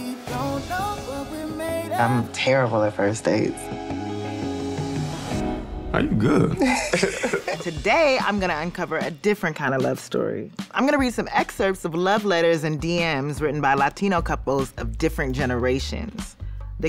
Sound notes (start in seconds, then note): 6.3 laughs; 7.8 upbeat drumset music